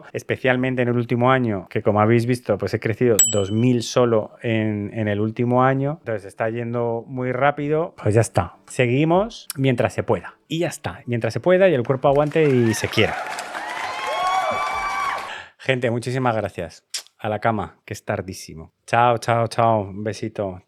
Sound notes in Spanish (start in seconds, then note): 13.6 aplauso